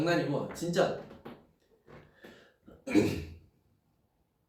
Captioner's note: clears throat